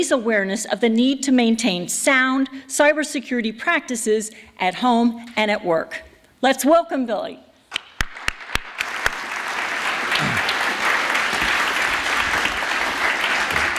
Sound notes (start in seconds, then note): 7.7 applause